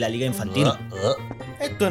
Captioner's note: gulp-gulp!